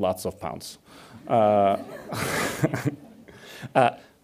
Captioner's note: audience laughs